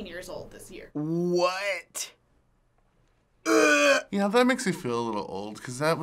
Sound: gags

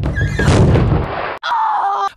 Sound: door slams against the wall; more rochelle screaming

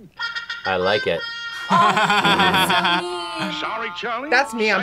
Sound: laughs

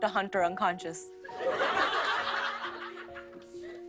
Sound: laughter

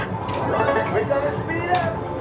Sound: game chimes

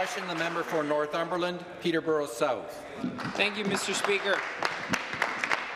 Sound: some Applause

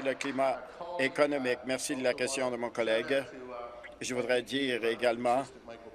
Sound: applause

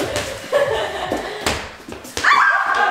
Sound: laughter; yelling

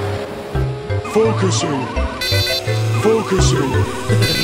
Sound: sentry noise

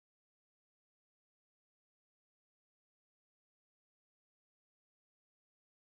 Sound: none

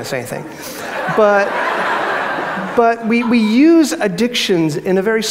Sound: crowd laughs

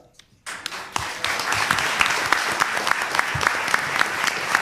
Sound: applause

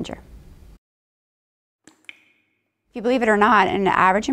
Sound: water dripping

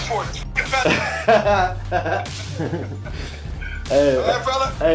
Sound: laughs

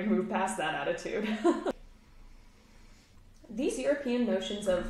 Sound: chuckles

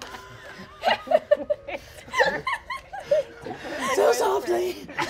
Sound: laughing

